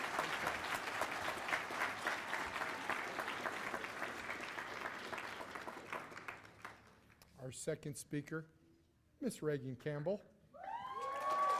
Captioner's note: cheers and applause